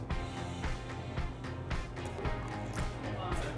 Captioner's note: chewing